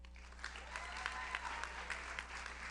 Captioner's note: audience cheers; audience applauds